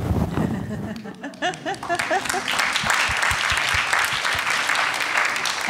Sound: audience applauding

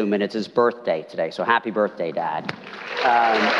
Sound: applause

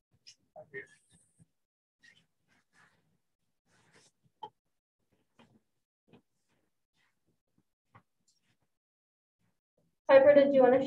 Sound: shuffling

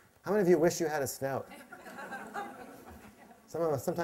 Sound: laughter

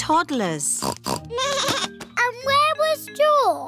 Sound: snorts; bleats

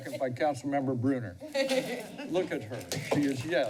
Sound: laughs

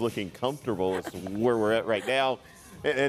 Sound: laughter

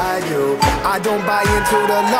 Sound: chime dings

